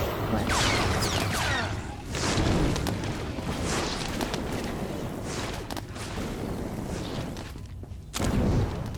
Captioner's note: exploding